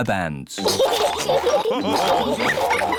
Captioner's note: all laugh